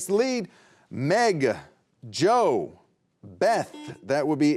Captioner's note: beep